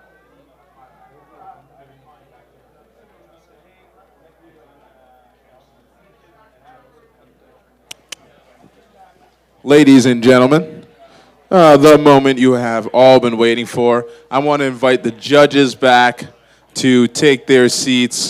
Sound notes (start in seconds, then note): 0.7 background chatter; 7.9 click click